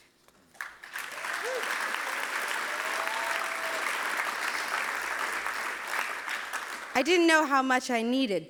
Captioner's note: clapping